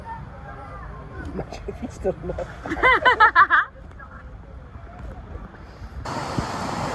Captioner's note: laughter